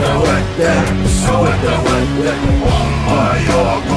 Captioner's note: non-english speech